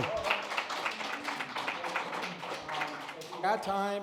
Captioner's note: applause